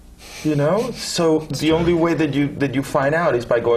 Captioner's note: laugh